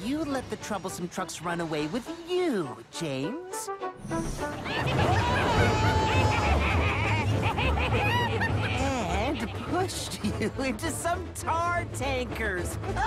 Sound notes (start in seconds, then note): 4.4 Troublesome Trucks laugh; 5.5 James Screams